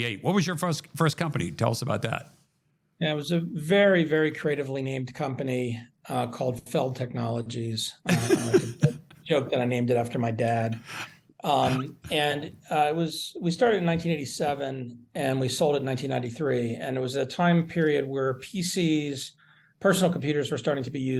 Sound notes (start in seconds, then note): 8.0 laughter